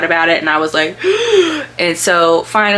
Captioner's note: gasp